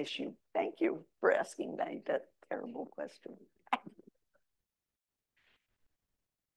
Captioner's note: chuckles